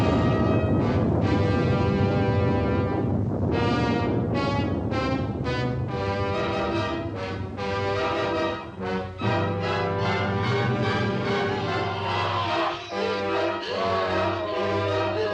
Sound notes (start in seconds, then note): 11.8 groaning